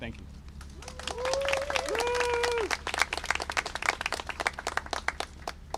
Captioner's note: applause and cheering